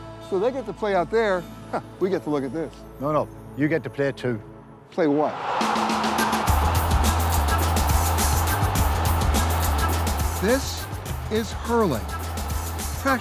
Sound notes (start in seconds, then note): 5.2 cheers; 5.6 upbeat music